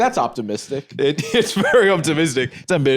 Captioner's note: laughs